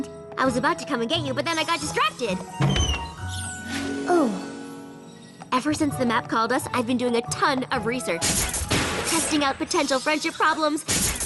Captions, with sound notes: I was about to come and get you but then I got distracted. Oh. Ever since the map called us, I've been doing a ton of research. [zap] Testing out potential friendship problems,